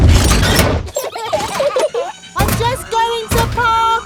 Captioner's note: children giggling